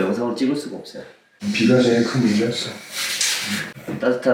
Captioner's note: sigh